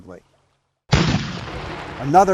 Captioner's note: cannon booms